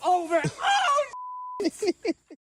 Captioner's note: beep